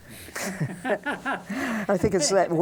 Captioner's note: both laugh